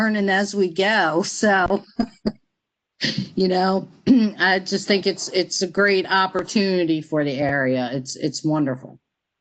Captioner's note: laughter